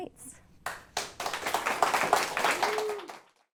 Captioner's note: applause